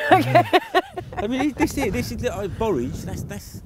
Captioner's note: laughing